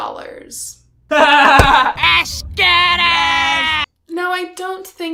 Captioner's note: laughter